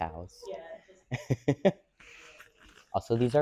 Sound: laughs

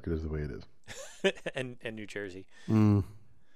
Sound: laugh

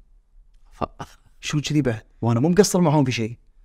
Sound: chuckles

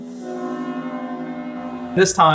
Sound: train horn outside

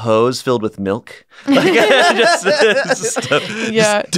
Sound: laughter

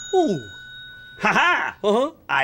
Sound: laughing

